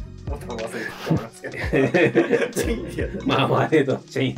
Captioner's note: laughing